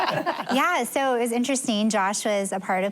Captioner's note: laughter